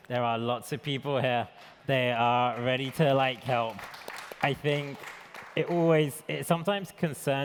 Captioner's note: applause